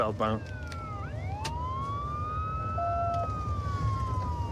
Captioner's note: sirens wailing